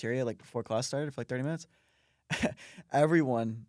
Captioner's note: laughs